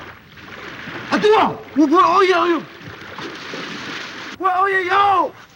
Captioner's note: man speaking foreign language